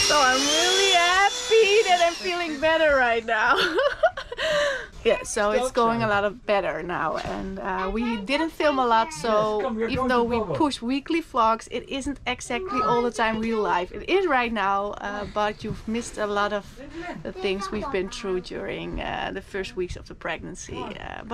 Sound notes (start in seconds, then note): 3.3 laughing